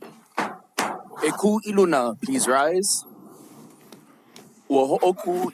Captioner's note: gavel bangs twice